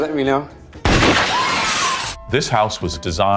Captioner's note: screaming; gunshot booming